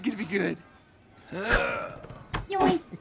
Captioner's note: laughs